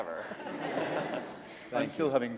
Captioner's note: laughter